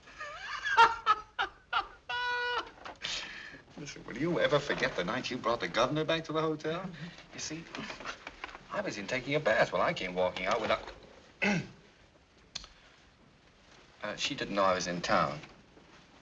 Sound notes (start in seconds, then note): 11.4 clears throat